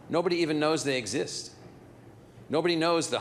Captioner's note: none